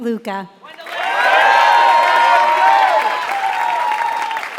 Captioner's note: applause